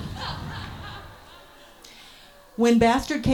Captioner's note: audience laughs more